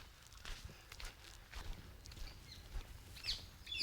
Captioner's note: footsteps